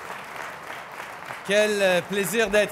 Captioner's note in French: Applaudissements